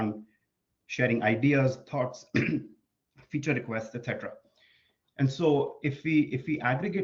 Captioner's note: clears throat